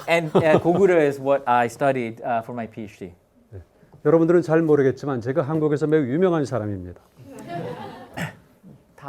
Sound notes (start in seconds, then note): 4.1 speaking in Korean; 7.2 students laughing